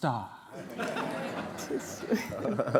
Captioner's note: laughter